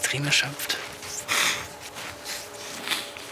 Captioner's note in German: Schniefen